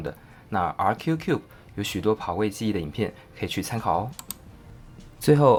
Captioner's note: in Mandarin